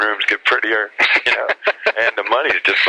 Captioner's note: laughs